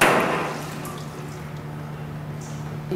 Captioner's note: low buzzing